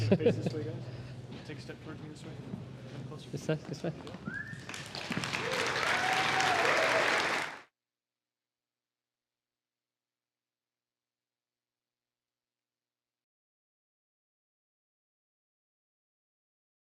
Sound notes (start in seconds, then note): 6.1 applause